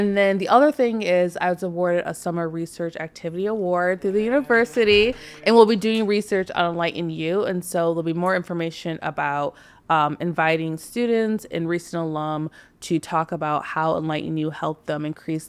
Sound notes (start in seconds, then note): 4.3 podcasters applauding softly